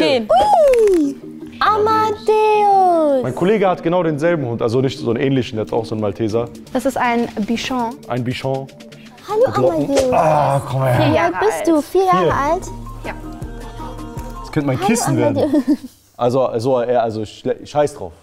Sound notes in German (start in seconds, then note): 13.1 Entspannte Musik; 15.4 Dünnes Lachen